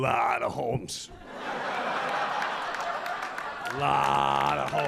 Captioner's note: audience laughing